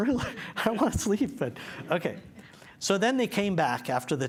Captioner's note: chuckles